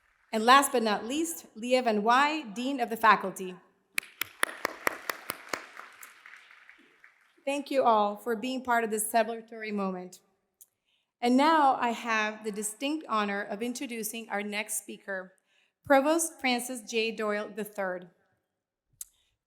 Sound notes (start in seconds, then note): 4.0 applause